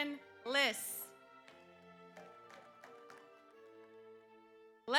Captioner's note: audience applauds